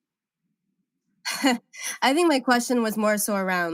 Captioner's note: laughs